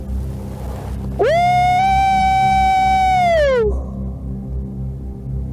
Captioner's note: aullando